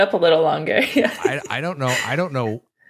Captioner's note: giggles